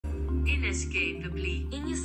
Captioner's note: various accents